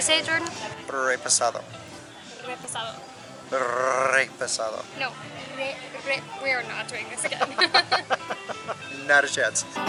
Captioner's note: laughter